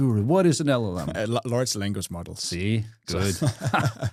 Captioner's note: friendly laughing